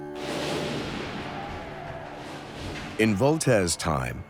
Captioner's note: gunfire, faint shouting